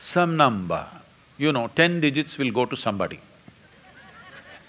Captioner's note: laughter